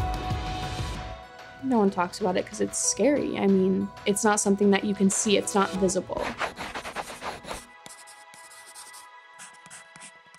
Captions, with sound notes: - No one talks about it 'cause it's scary. I mean, it's not something that you can see. It's not visible. (pencil scratching)